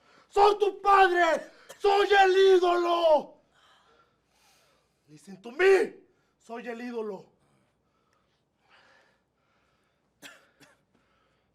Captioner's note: speaking spanish